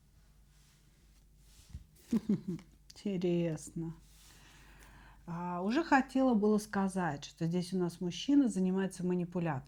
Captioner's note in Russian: смех